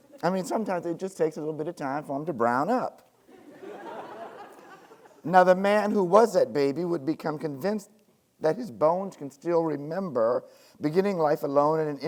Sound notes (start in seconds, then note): 3.2 students laughing